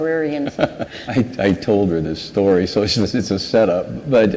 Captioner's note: laughs